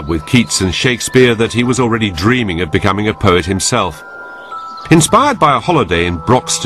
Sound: birds twitter

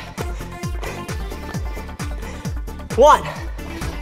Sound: gasping

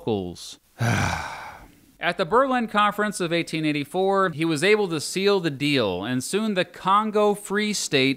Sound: sigh

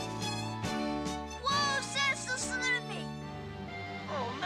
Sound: stammering

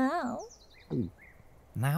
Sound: funny videos Johnny Bunny gulps

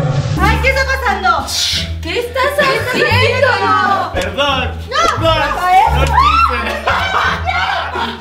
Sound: laughs

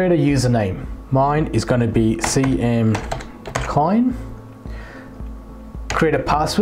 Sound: keyboard typing sound

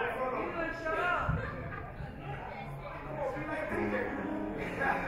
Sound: audience chatter

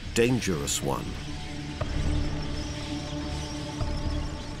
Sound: tank tracks rumbling

